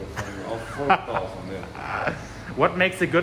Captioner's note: speaking in foreign language; host laughing